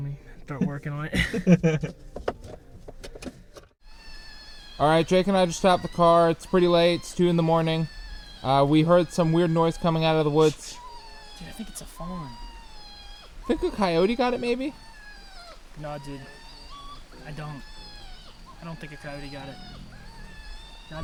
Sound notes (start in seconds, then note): 1.1 Thomas laughs; 5.0 animal crying; 9.3 animal crying